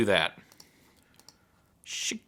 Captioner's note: mouse clicking